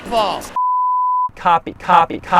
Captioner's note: bars and tone